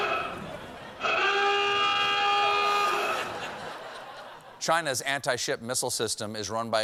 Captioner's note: horn blowing